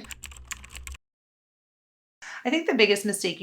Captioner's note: keyboard clicking